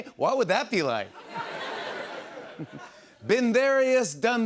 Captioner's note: laughter